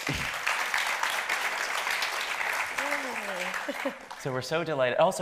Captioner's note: audience applauding